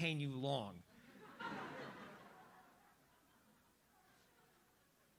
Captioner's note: audience laughs